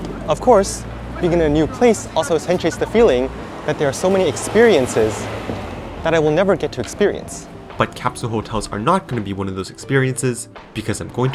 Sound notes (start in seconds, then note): 5.5 car whoosh